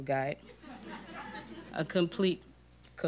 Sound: audience laughing

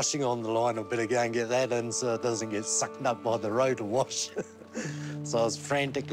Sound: laughs

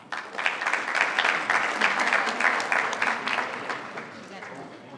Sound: attendees applauding

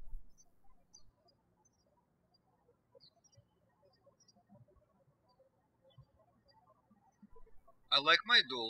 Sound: birds chirping

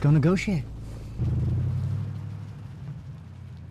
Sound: car drives away

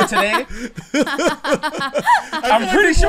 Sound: laughter

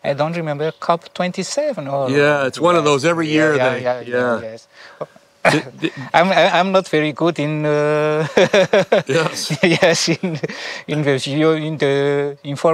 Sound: laughs

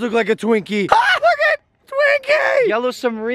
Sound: high pitched

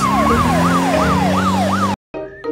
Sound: siren wailing

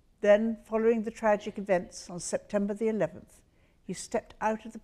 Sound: none

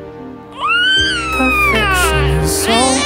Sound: groans

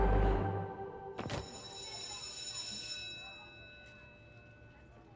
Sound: school bell rings

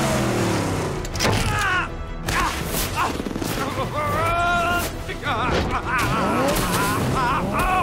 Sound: grunting, groaning

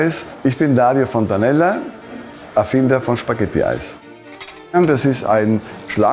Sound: speaking in foreign language

